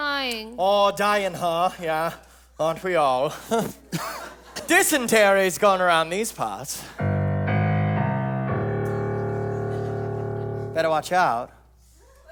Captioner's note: ominous sound cue